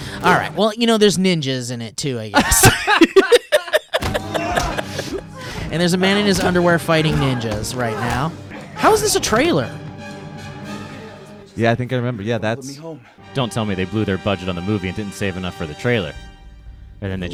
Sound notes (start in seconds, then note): 2.3 laughing; 10.7 movie playing on computer